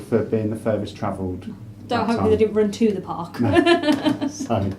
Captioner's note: laughs